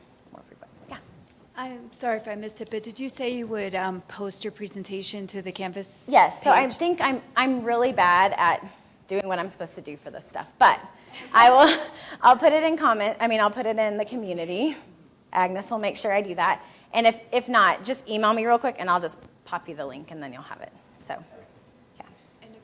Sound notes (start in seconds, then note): 10.7 laughs